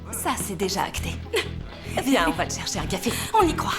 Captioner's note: laughing